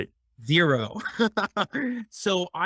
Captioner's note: laughs